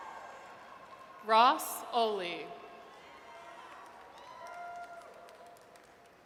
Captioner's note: audience cheers